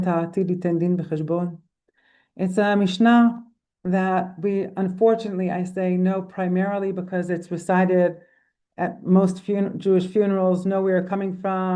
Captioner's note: in Hebrew